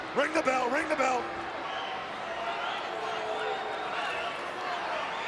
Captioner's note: crowd yelling